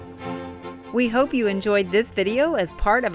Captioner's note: voiceover